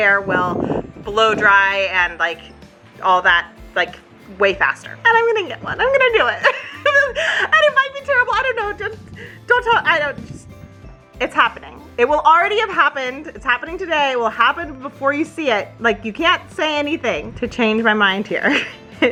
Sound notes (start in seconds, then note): 6.6 giggles quickly